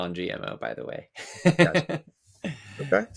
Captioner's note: laughs